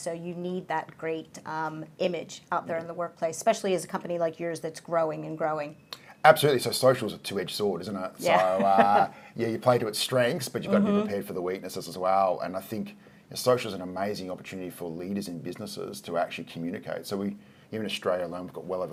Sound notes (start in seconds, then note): 8.3 laughing